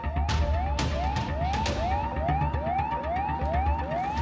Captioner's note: alarms beeping